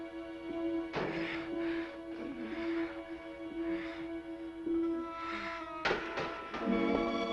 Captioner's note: somber orchestral music; Ruth panting